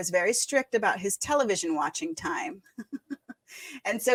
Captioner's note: chuckles